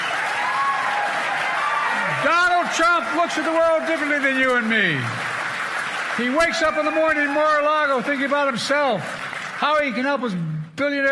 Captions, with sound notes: to him. I've said -- [ Cheers and applause ] >> Donald Trump looks at the world differently than you and me.